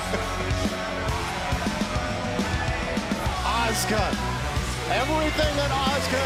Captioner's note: laughter